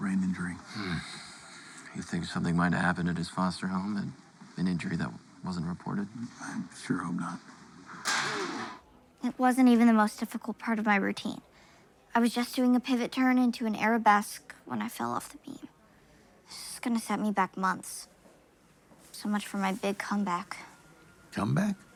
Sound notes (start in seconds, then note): 8.0 object clatters